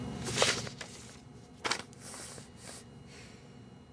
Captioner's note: paper rustling